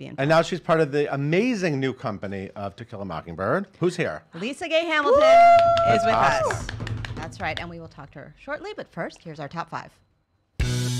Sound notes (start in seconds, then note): 5.1 cheers